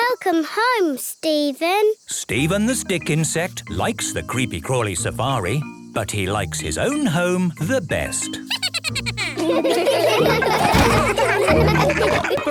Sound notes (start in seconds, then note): 8.4 Steven giggles